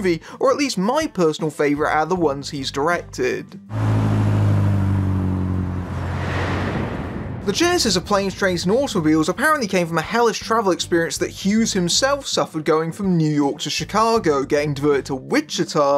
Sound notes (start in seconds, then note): 3.6 car sounds, airplane takes off